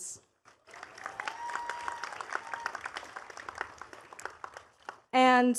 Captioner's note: attendees cheering and clapping